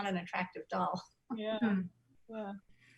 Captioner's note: soft giggles